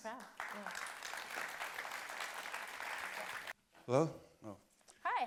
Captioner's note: applause